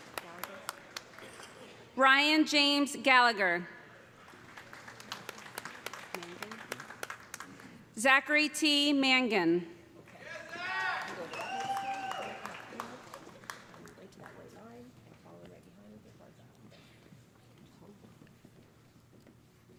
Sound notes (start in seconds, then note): 4.1 applause; 10.2 cheers and applause